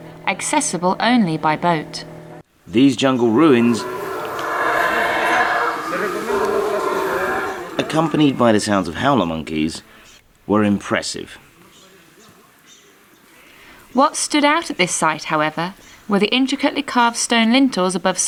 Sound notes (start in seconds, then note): 3.0 howler monkey calling